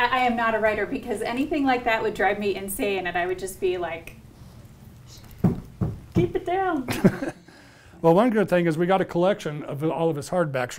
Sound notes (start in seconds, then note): 5.3 stomping; 6.9 laughs